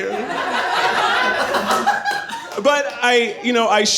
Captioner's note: audience laughing